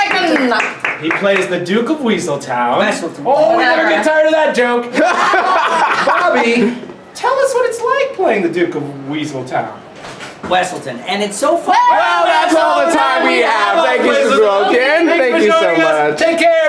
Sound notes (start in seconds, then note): 4.9 laughs